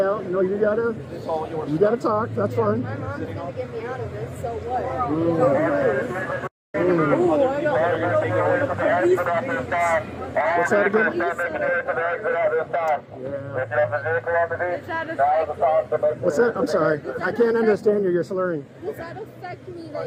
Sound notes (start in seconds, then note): 11.1 radio chatter